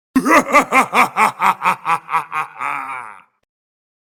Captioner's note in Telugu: నవ్వు